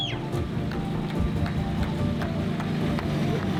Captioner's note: clapping